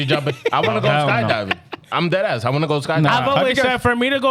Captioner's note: speaking Foreign Language